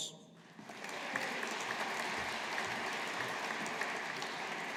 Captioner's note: audience applauding